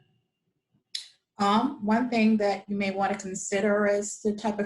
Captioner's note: woman's Voice